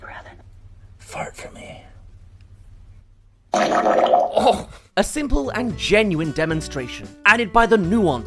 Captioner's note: Alexa Fart